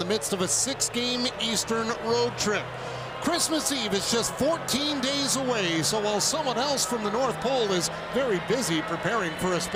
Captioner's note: cheering and applause